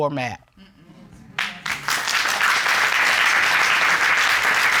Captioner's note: audience applauding